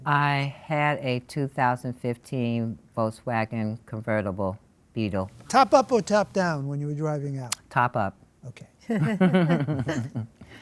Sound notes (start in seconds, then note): 8.9 laughs